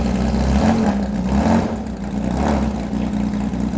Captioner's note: engine revving